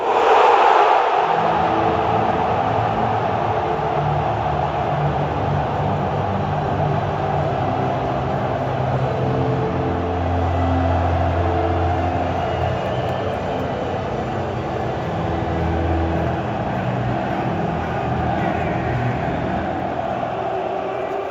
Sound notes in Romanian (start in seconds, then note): 1.4 Aplauze; 17.0 Aplauze